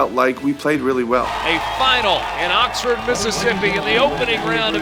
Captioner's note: voiceover